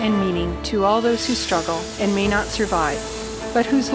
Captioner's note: sound of airplane flying